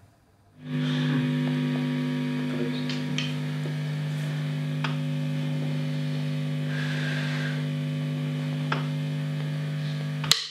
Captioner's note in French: buzz d'amplis; coups de baguette